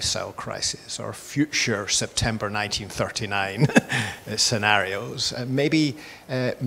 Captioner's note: laughs